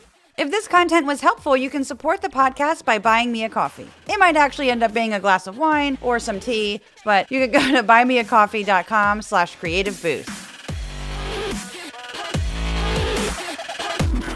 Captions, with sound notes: If this content was helpful you can support the podcast by buying me a coffee. It might actually end up being a glass of wine or some tea [ laugh ] but you can go to buy me a coffee.com/creativeboost